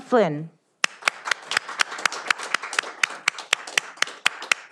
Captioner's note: all applauding